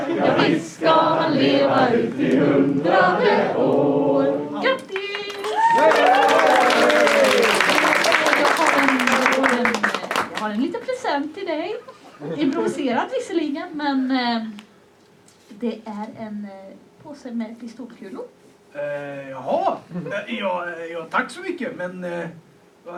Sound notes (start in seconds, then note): 4.9 applause and cheers; 7.3 applause from the audience